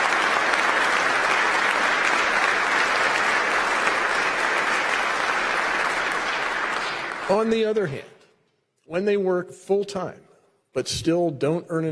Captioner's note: applause